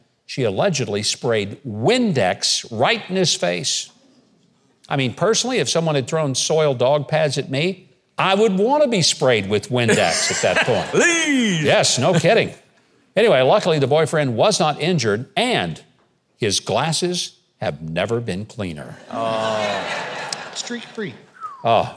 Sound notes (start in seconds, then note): 9.8 and the crowd laughing; 19.0 crowd laughing